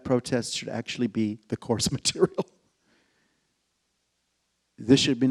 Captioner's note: laughs